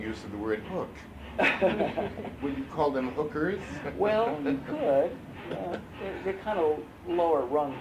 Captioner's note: laughter; laughs